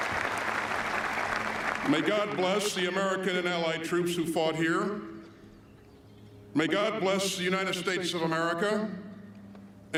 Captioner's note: applause